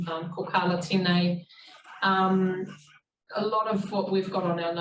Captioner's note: speaking in foreign language